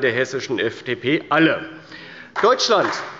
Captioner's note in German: Beifall bei Abgeordneten der CDU